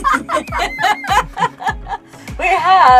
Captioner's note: laughing